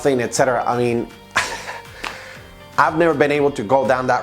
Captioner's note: laughs